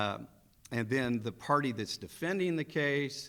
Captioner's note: none